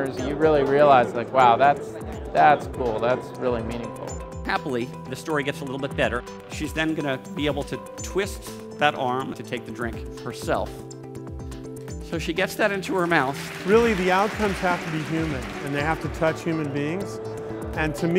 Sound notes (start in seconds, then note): 12.2 applause